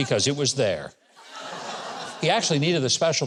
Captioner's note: audience laughs